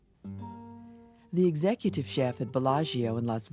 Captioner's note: voiceover